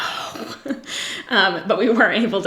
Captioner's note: giggles